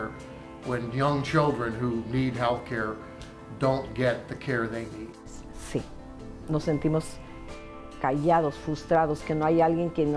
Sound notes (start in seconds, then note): 5.6 speaking in Spanish